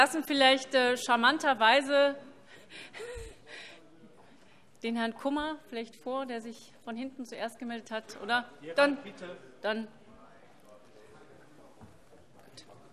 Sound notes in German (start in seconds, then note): none